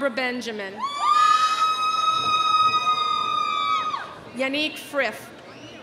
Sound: audience cheering

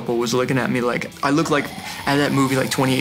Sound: zombie growl

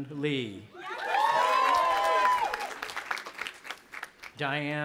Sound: audience applauding and cheering

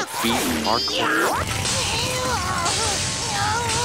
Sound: groaning

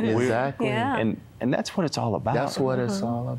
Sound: giggling

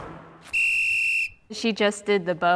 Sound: whistle blowing

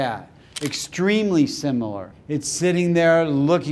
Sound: camera shutter clicking

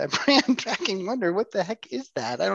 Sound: laughs

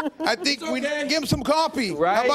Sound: laughter

